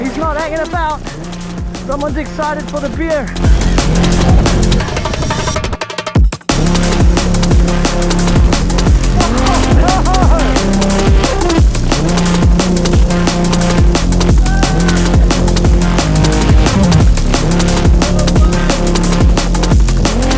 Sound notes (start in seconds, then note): 4.6 upbeat music; 14.6 biker shouting; 17.6 upbeat music